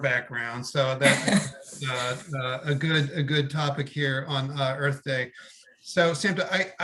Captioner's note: laugh